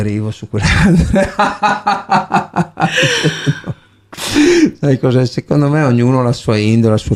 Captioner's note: laughs